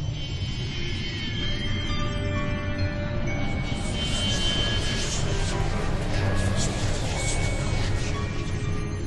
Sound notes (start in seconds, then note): 4.1 whispering